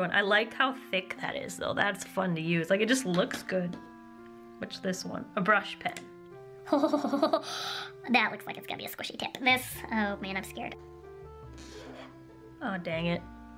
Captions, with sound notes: I like how thick that is though That is fun to use Like, it just looks good Which is this one A brush pen *delighted laughter* That looks like it's gonna be a squishy tip This-- oh man, I'm scared Oh, dang it